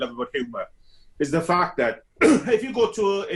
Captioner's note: coughs